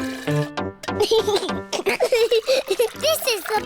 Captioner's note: giggles